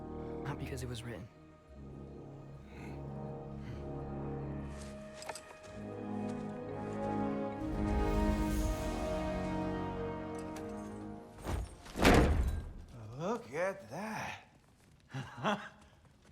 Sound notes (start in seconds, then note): 2.6 grunt; 15.1 laugh